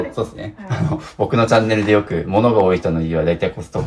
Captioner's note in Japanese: 笑い; 咳払い